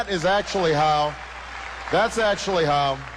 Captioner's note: cheers